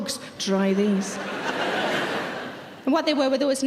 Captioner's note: audience laughing